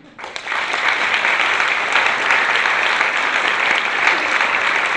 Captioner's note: audience applause